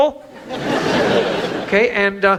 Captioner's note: audience laughs